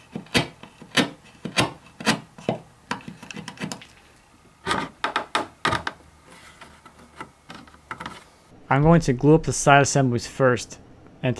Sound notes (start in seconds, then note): 4.6 wood creaking